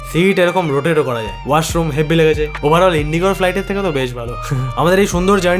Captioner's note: giggles